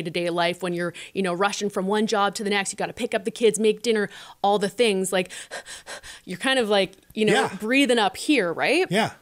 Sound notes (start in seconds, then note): 5.3 heavy breathing